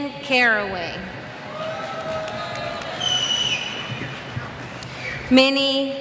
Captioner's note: cheers